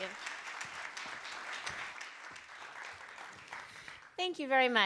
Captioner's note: applause